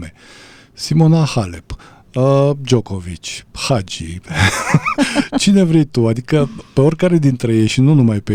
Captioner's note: laughter